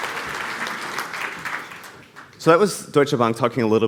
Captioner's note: applause